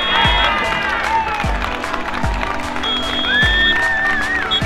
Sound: cheering

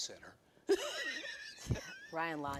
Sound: laughing

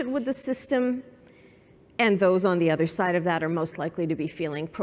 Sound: none

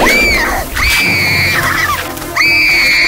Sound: roaring; terrified screaming

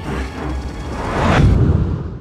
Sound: whhhhHHOOSH

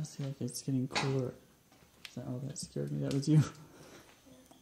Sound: loud bang

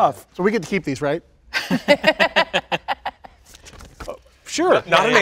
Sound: all laughing

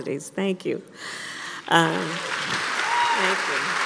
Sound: applause

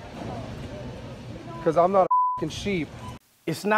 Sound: beep

